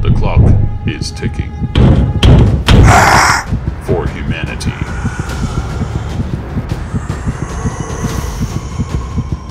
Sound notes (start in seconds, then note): 1.7 pounding on door; 2.8 snarls outside